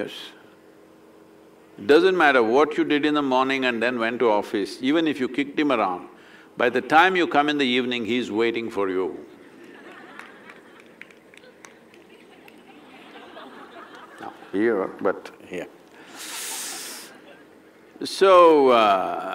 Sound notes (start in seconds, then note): 9.3 laughter; 17.4 few laugh